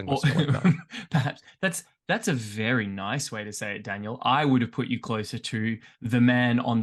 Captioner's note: laughs